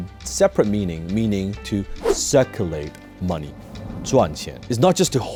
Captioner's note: speaks Chinese